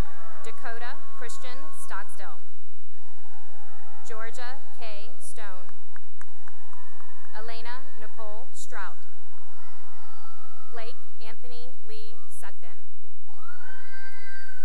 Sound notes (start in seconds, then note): 0.0 cheering and applause; 2.9 cheering; 5.6 cheering and applause; 9.6 cheering; 13.2 cheering